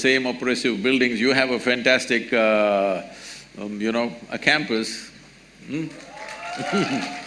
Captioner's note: applause